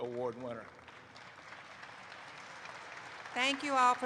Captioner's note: audience applauds